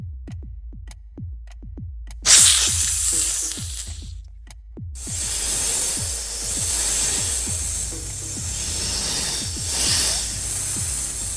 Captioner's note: hissing